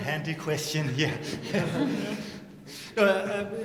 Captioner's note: laughter